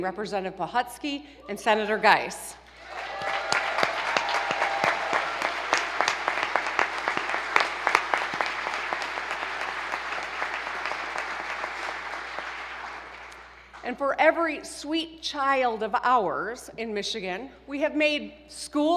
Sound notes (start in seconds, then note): 2.7 applause